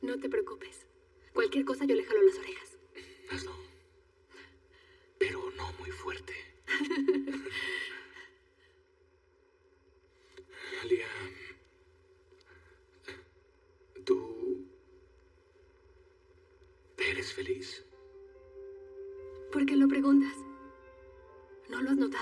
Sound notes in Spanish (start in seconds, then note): 11.7 Ríe